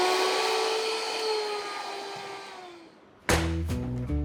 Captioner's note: blender whirring